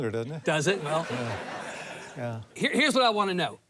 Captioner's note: audience laughs